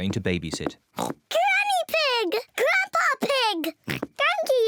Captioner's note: oinks; oinks